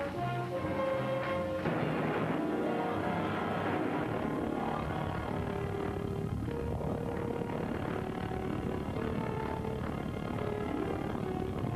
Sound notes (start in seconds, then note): 4.0 dramatic music; 4.0 island rumbling